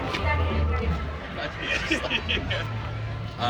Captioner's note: laughs